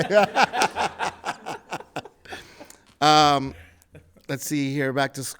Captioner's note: laughs